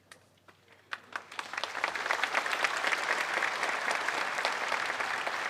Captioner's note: applause